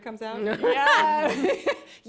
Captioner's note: laughter